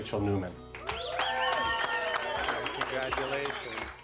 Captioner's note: audience cheering and applauding